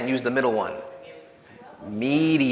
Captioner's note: audience chattering